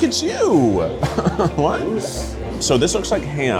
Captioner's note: chuckles